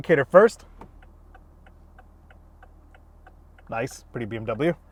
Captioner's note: indicator clicking